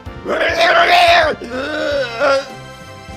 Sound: groaning

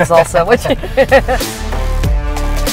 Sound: laughs; intense music

